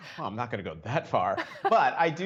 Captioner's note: laughter